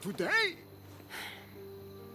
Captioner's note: sigh